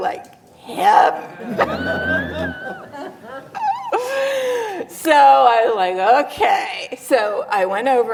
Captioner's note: laughs